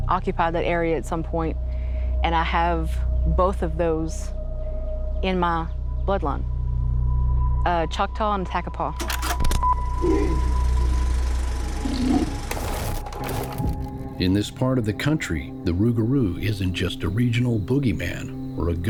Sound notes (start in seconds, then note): 9.0 film reel clacking; 10.0 Rougarou grunting